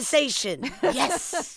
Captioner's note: laughter